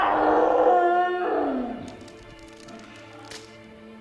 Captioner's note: bone snapping